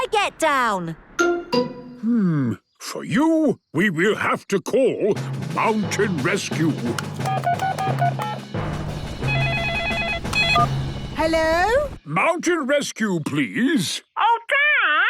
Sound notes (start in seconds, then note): 7.1 phone beeping; 9.2 phone ringing